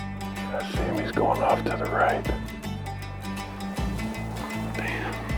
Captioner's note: whispering; whispering, offscreen